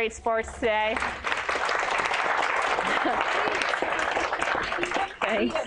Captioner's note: applause